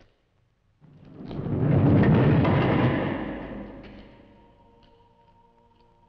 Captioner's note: door rumbling; singers vocalizing